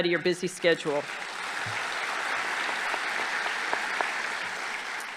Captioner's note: audience applauding